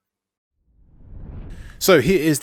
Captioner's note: air swooshing